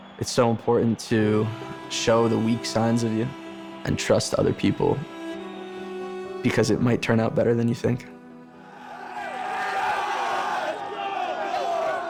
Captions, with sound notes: It's so important to show the weak signs of you, and trust other people, because it might turn out better than you think." (players cheering) - Let's go!